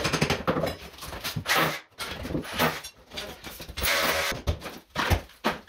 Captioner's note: sawing